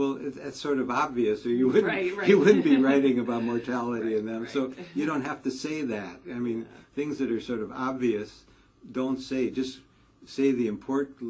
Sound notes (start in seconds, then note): 2.2 laugh